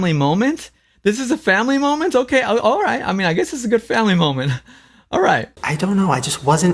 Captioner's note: laughs